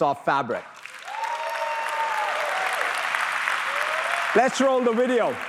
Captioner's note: applause